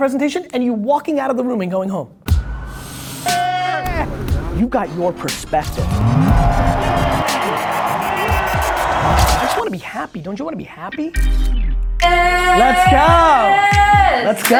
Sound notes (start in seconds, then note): 2.8 hip hop music; 7.2 crowd cheering